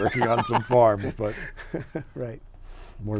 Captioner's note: laughing